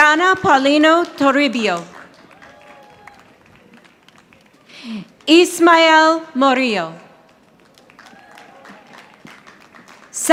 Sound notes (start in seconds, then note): 1.7 audience applauding; 7.2 audience applauding